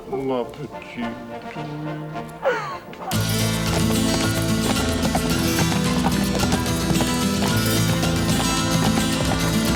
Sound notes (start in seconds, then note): 0.2 John speaks French; 2.8 hooves clop; 3.1 dramatic music